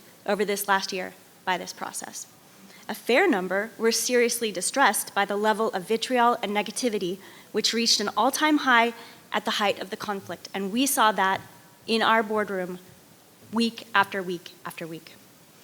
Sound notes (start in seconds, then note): none